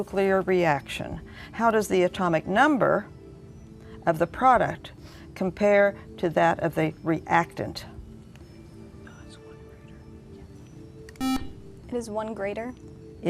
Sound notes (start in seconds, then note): 7.6 whispering; 11.2 buzzer